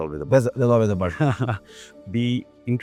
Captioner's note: chuckles